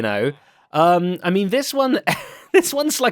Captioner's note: laughs